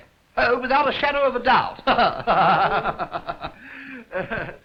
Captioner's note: laughs